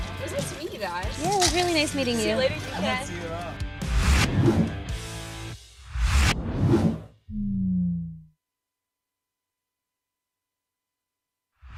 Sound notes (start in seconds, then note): 4.0 air whooshing